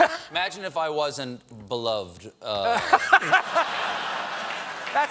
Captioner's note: laughter